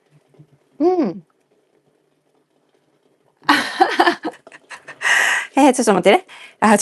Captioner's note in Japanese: 笑い